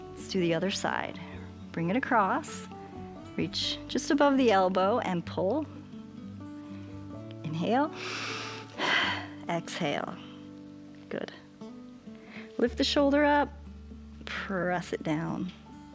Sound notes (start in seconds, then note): 7.9 inhales and exhales